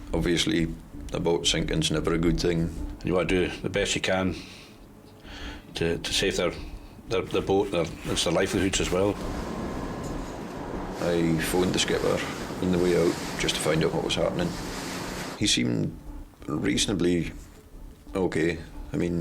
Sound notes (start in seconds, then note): 8.8 waves roaring